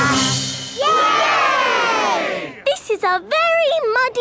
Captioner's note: all cheering